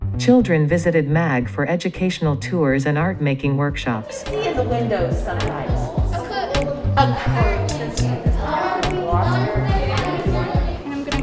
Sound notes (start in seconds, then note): 4.0 students and instructors chattering